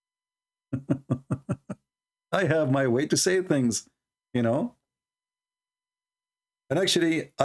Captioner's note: Ketawa